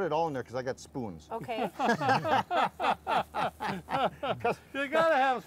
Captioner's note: all laughing